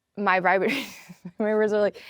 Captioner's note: laughs